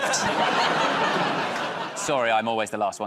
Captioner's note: laughter